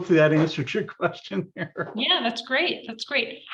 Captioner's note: laughs